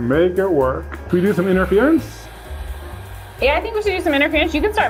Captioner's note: heat gun whooshing